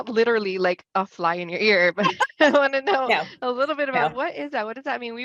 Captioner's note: laughs